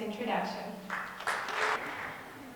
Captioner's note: audience clapping